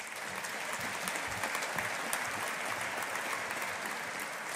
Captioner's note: audience applauding